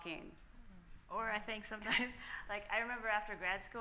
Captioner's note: laughs